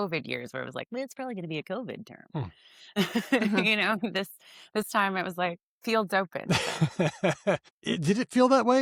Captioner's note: laughs